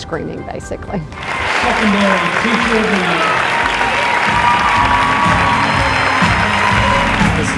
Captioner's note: clapping